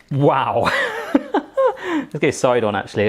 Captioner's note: laughing